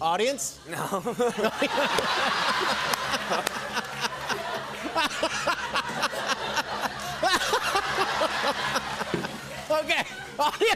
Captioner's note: laughter